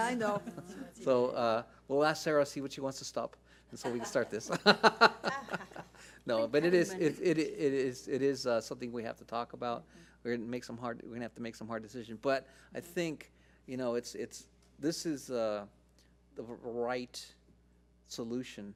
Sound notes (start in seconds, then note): 3.8 laugh